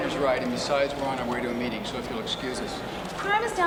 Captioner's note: none